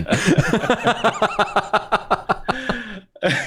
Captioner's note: laughter